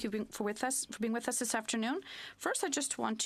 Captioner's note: speaking French